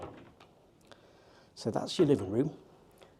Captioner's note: door clicking